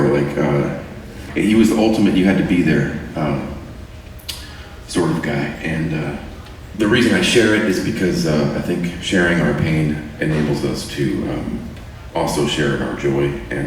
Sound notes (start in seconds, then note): none